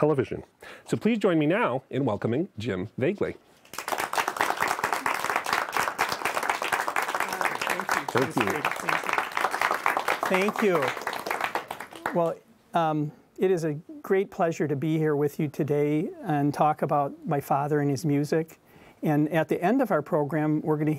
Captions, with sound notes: So please join me now in welcoming Jim Voegeli. (audience clapping) - Thank you. Well, it is a great pleasure to be here with you today and talk about my father and his music. At the end of our program, we're going to hear maybe